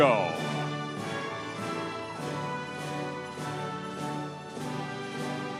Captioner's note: audience cheering